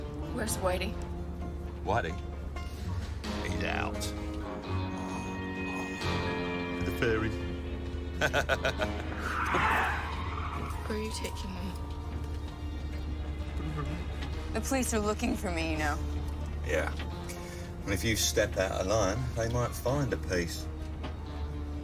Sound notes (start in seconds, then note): 8.2 laughs; 9.0 tires screeching